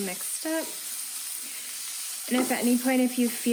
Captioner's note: sizzling